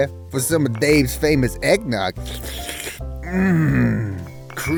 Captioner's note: slurping eggnog